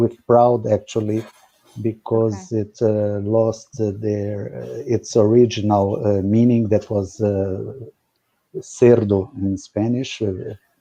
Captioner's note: speaking Spanish